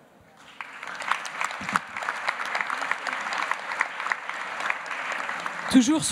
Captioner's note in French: Applaudissements